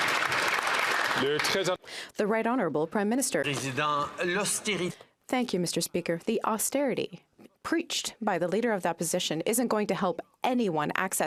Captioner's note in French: applaudissements